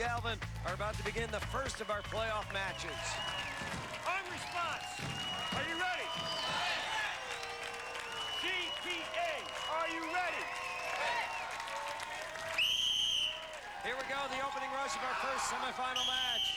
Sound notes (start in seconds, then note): 6.4 cheers; 9.9 cheers; 12.4 whistle blows